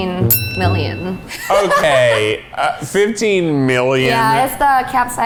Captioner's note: bell rings